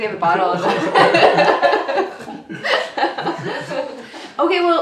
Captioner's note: laughs